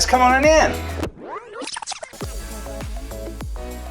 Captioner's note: tape whirl fast-forward; upbeat music